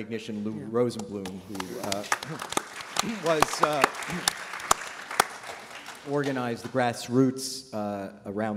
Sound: applause

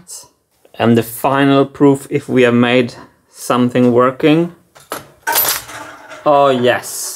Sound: gate clicks, marbles clicking and rolling

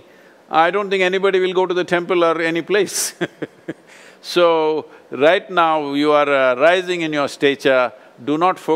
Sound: laughs

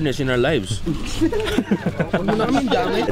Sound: laughter

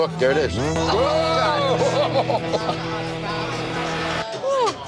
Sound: experts groaning

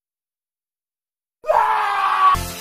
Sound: screaming

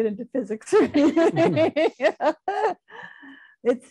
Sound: laughing

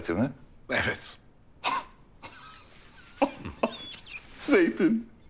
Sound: laughter

